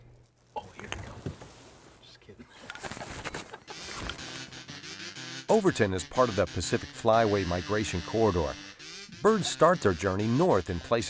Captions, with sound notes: (laughter) Overton is part of the Pacific Flyway migration corridor. Birds start their journey north